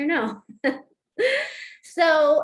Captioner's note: laughter